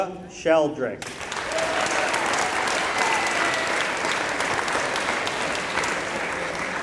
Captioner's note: applause